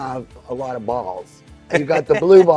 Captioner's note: laughs